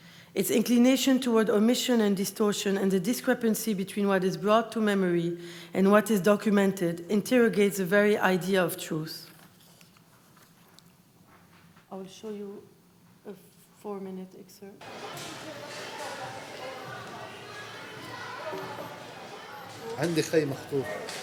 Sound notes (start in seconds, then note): 14.8 street noise; 20.1 non-english speech